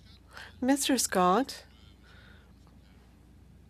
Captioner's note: speaking French